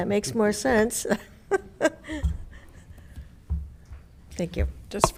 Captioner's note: laughing